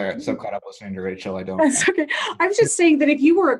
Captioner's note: laughs